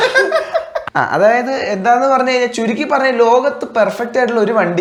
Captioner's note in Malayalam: പൊട്ടിച്ചിരി